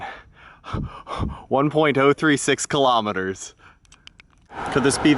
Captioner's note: heavy breathing